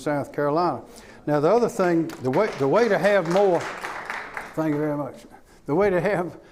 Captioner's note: clapping